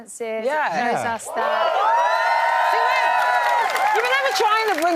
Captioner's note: cheering